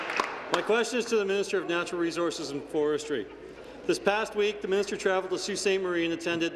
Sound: applause

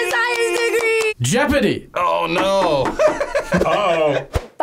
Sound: laughs

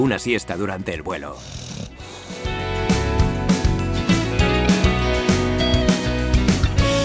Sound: zzzzzz

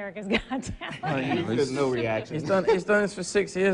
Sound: laughing

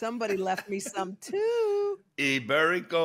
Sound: José laughs

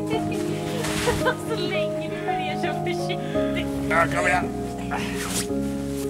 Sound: speaking Swedish

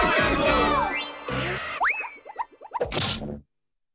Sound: whoosh!; thunk!

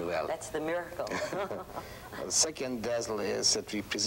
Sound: laughs

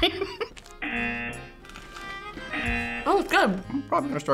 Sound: laughs; buzzer rings

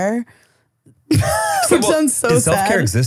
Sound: laughing

